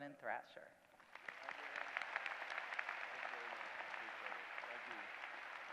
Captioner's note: applause